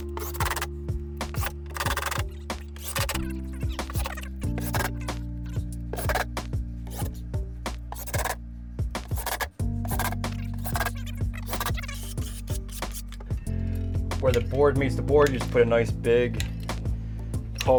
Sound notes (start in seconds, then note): 2.5 tape fast forwarding; 6.4 drill whirring; 9.8 tape fast forwarding